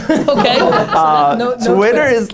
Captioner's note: laughter